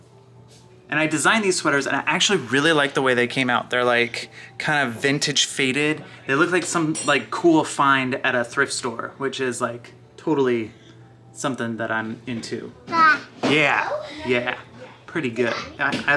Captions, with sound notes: And I designed these sweaters, and I actually really liked the way they came out. They're like kind of vintage faded. They look like some, like cool find at a thrift store, which is like totally something that I'm into. (baby makes sound) Yeah. Pretty good.